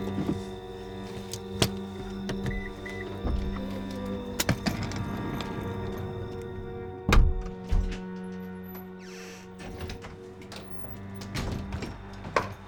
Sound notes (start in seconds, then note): 2.9 car beeps; 7.5 door clicks; 8.6 door creaks